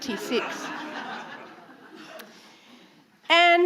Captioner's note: audience laughing